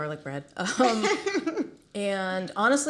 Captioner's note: chuckles